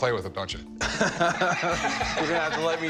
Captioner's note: laugh